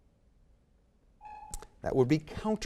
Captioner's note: timer sounds